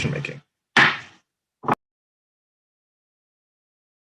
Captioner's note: pounding gavel